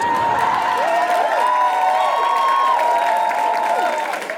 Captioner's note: audience cheers heartily and applauds